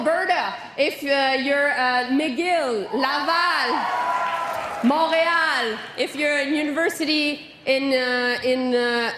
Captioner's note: applause